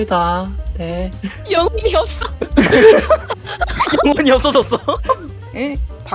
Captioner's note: laugh